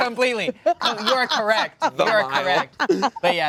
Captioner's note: laughter